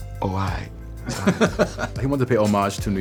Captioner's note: laughs